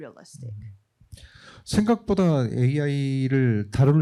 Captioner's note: speaking korean